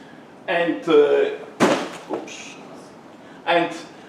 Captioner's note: leg banging